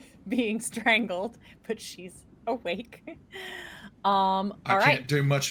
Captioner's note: laughing